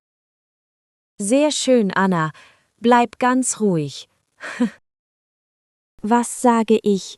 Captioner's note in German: lacht